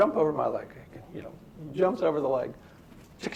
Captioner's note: shaking noise